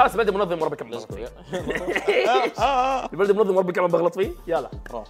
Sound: laughs sarcastically

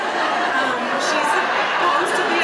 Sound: audience laughs

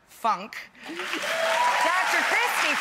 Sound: audience claps

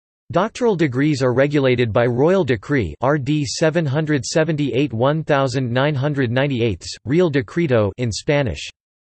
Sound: in Spanish

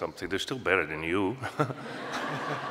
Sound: laughter

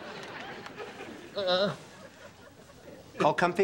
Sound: groans

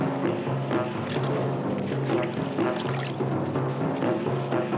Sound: splashing

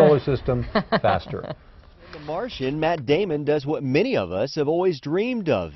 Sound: laughter

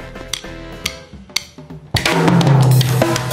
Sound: drumsticks clacking

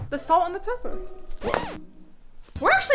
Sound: record scratching

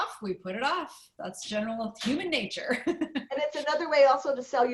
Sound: laughter

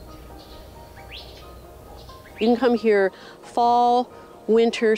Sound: birds chirping

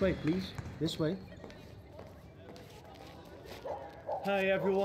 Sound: dog barking in the background

